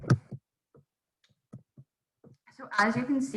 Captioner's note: microphone thudding